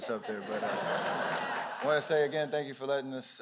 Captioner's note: laughter